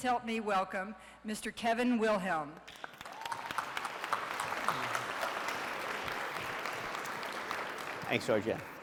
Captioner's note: audience clapping